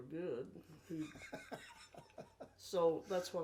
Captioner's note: laughing